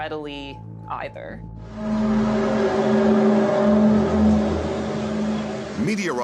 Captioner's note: groaning sound